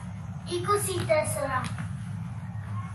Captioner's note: hall noise